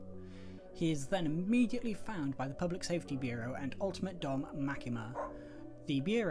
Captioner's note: dog bark